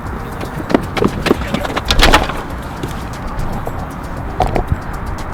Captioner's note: footsteps pounding